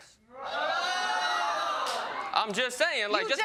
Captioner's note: audience exclaiming loudly